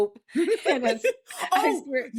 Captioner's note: laughing